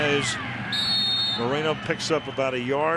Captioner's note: whistle